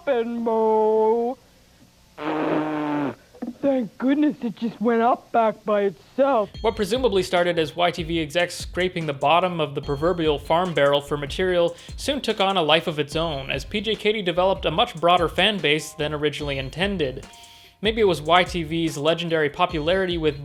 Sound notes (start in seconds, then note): 2.2 spitting